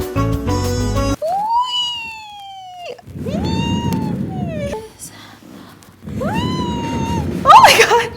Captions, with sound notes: Whee! (squeals) Whee! Oh my God!